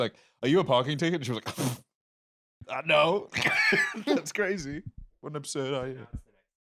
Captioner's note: laughs